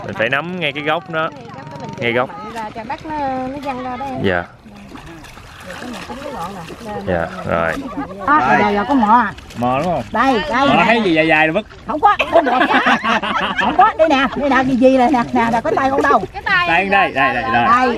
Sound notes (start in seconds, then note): 12.1 laugh out loud